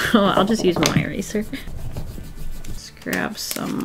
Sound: eraser rubbing

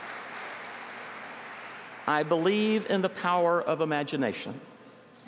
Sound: applause

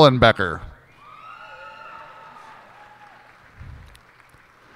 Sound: cheers and applause

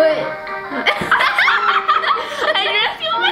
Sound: laughing

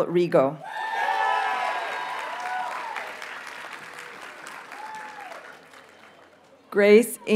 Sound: audience cheers and applauds

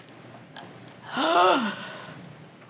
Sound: gasping for air

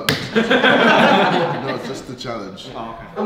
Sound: laughing

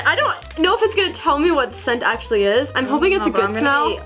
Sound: none

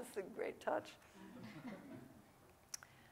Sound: audience laughing

